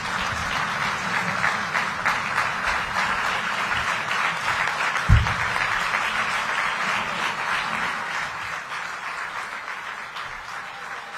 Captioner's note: cheering and applause